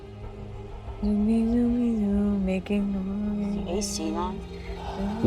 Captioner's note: humming